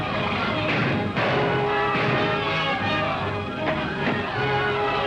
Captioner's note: gunshots blasting